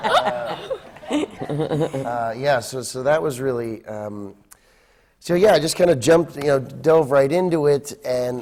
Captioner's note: laughter